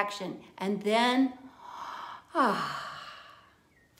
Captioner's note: inhaling and exhaling